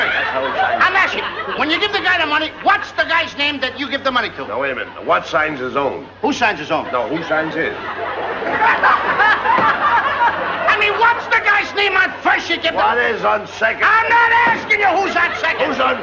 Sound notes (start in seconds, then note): 8.8 laughter